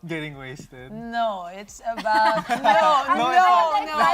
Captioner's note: laughter